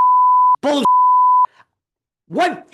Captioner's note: beep